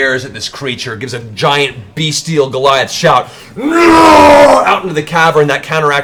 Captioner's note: roars